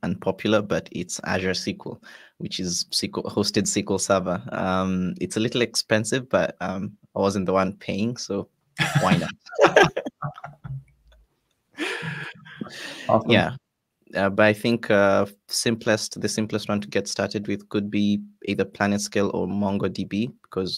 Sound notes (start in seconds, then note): 8.8 all laugh